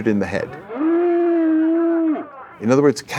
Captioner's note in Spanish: Vaca mugiendo